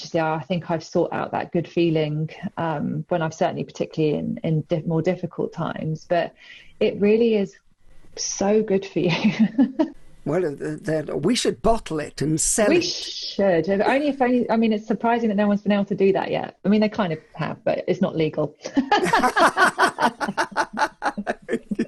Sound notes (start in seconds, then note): 10.3 laughs; 18.7 both laugh loudly